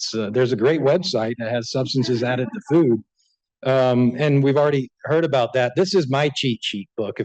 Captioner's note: laughter